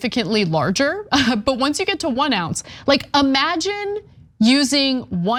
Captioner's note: laugh